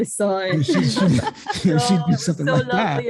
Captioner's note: laughter